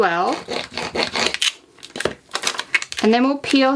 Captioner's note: tool scraping